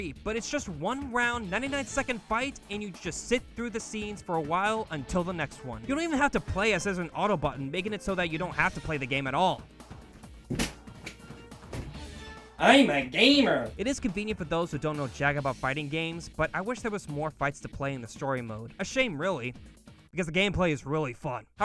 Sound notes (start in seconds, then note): 10.0 controller Smacks on bed